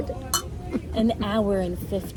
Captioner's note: glasses clink